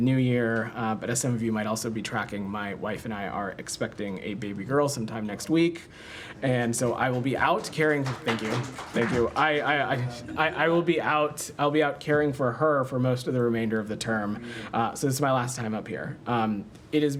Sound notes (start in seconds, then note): 6.8 applause